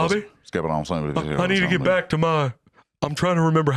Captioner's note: Boomhaueresque mumbling